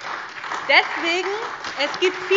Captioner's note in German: Beifall